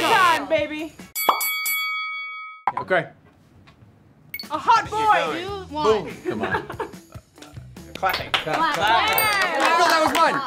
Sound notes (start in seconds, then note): 1.1 boxing bell rings; 7.9 clapping; 9.4 group clapping